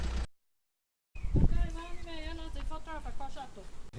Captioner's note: Speaking Hemshin the local language